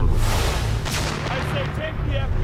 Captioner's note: type whooshing